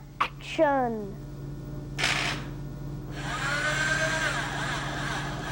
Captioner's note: mechanical movement